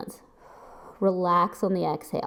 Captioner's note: exhales